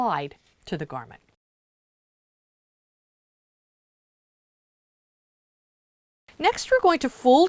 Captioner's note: no Sound Present